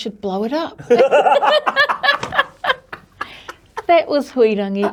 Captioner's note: both laugh